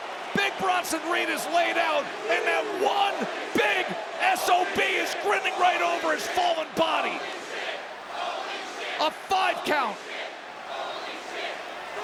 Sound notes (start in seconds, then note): 7.3 crowd chants "Holy shit"